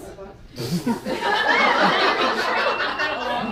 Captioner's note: laughing